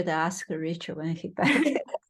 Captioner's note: laughs